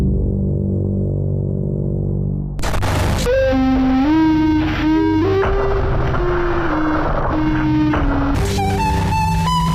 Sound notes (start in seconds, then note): 2.6 static crackling; 3.5 eerie electronic music